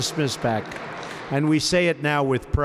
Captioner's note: applause